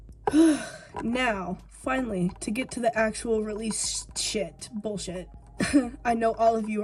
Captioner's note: sigh